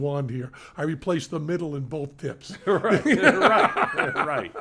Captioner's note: laughs